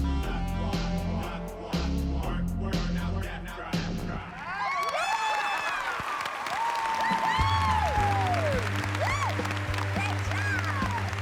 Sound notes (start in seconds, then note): 4.3 cheers and applause